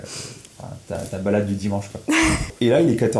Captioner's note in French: Rires